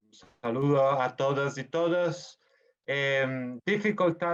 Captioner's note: speaking foreign language